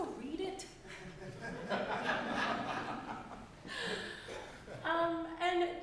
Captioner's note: audience laughing